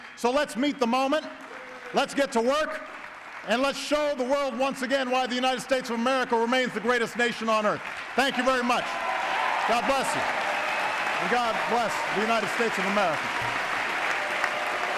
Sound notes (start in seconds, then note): 8.0 applause; 13.4 applause